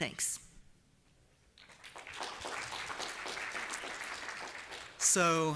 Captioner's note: applause